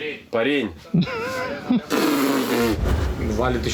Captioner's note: both laugh